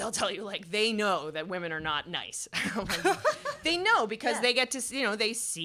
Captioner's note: laughter